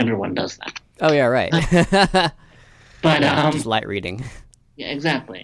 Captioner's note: laughs